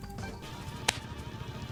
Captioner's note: presses hands together for noise